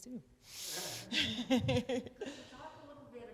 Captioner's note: attendees chuckle; host chuckles